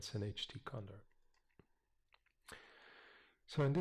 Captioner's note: pause